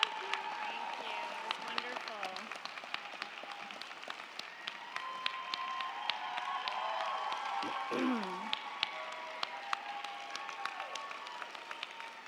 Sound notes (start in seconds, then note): 2.4 crowd cheering; 2.4 crowd clapping